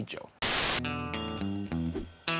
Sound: static; bluesy rock music

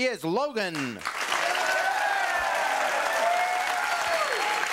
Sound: audience cheering

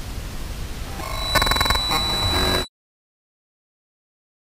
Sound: video whirring

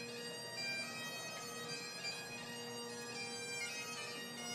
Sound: none

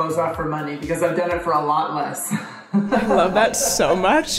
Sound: chuckles

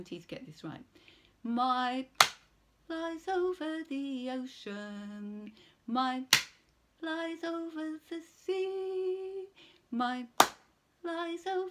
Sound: clap; clap clap

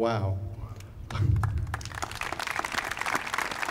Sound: applauding

